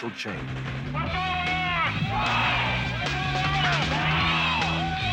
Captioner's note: protestors shouting